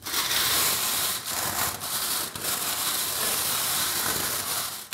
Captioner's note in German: Kratzige, schleifende Geräusche